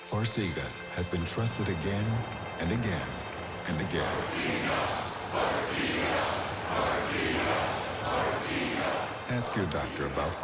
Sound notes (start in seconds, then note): 5.1 crowd chanting